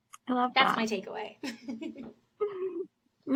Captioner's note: laughs